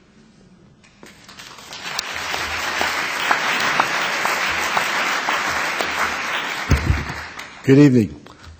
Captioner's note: applause